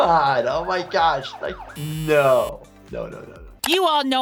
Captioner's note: buzzer buzzing